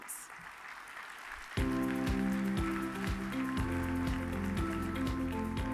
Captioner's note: audience applauds; upbeat music